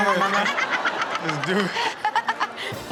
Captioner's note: Chanel and audience laughing